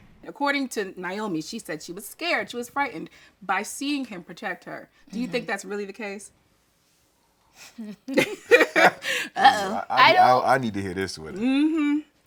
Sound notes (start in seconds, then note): 7.9 laughing